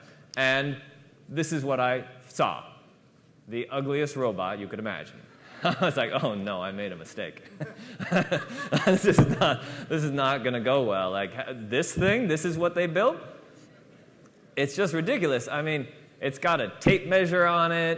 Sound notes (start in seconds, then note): 7.4 laughter